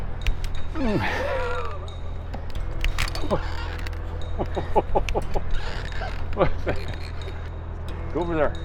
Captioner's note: laughing